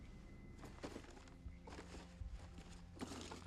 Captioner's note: rustling